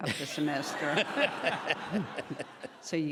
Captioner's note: laughing